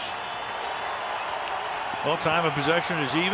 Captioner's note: cheering